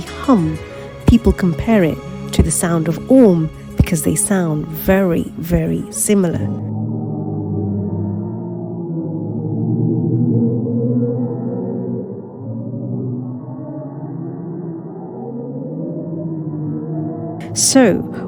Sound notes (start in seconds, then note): 9.1 sound of humming galaxy